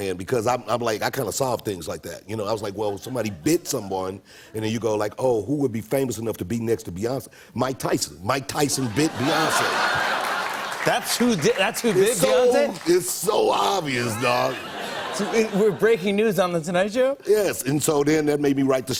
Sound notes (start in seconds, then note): 10.6 laughter and applause; 14.0 laughter